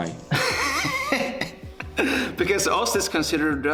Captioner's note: laughing